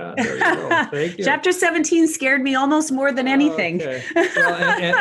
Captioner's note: laughs